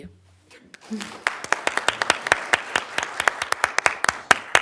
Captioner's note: applause